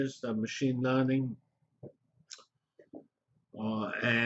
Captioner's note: pause